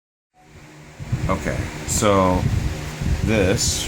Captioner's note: fan in background